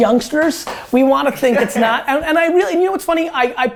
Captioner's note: laughter